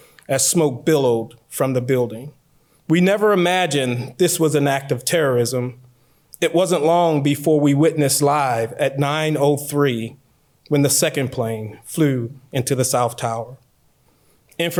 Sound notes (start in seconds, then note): none